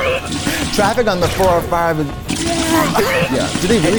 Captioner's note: retches